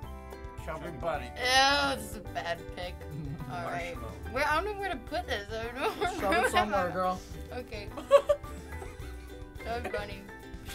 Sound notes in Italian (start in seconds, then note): 3.1 ridacchia; 8.2 ridacchia